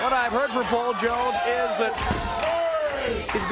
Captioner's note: crowd cheering